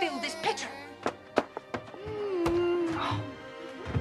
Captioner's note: moaning